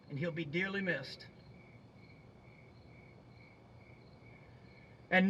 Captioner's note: crickets chirping